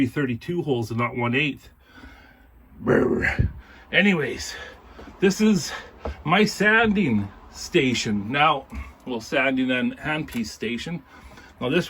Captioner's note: grrrr!!!!